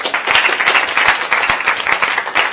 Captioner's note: applause